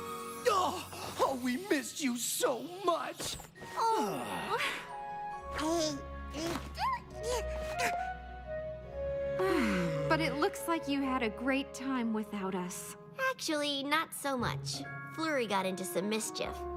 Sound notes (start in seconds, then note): 5.9 sighs; 9.3 bothth sigh